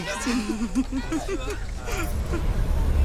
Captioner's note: she giggles